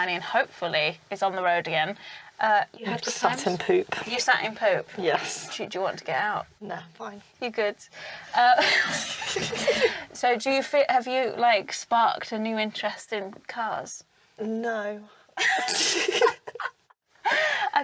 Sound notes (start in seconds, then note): 8.5 both laugh; 15.4 both laugh